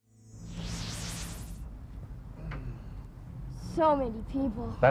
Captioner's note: strong wind